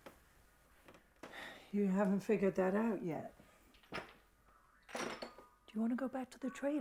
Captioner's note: sighs